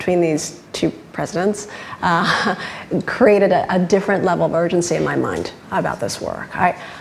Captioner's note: laughs